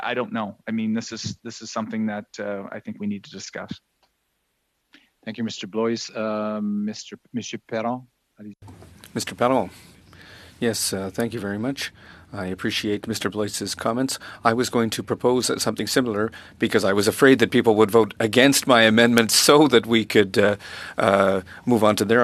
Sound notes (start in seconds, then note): 15.6 speaking French